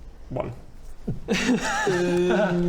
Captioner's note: pity laughs